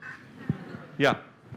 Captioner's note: laughter